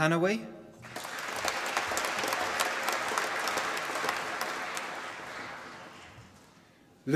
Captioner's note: applause